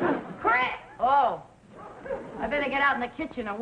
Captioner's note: audience laughing; groaning